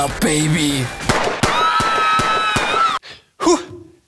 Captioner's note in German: Schüsse, Schreie